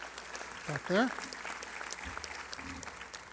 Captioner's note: applause